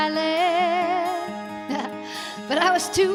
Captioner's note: laughs